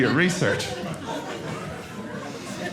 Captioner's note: audience laughing